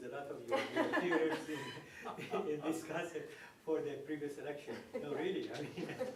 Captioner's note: laughter